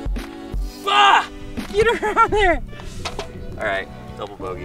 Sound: groaning

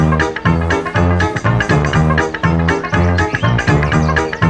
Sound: small fart

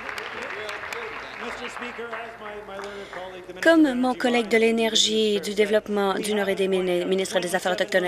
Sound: applause

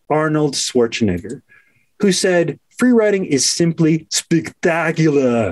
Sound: Arnold accent

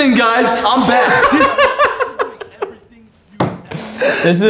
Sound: laughing

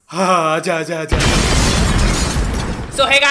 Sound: blast!

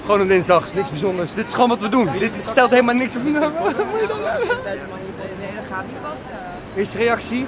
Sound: cries

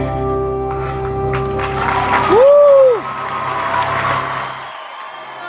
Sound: applause

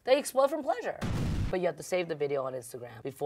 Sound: graphics booming

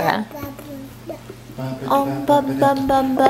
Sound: gurgling

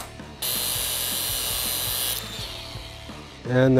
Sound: mechanical whirring

